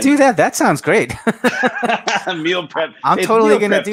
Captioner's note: both laugh